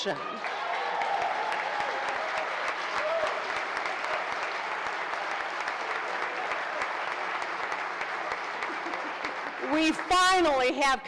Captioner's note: applause